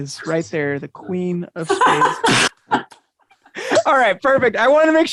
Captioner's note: woman laughing